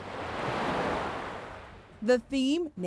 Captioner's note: waves crashing